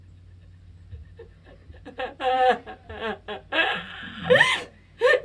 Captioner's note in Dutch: vraagsteller huilt